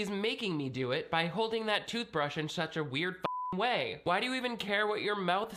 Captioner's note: beep